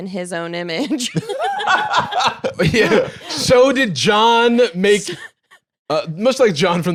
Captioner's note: laughs